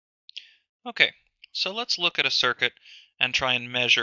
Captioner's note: voiceover